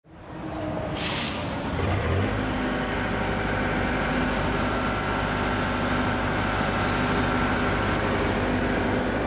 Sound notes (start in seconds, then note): 0.5 motor rumbles